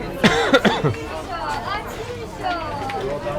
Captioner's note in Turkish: öksürme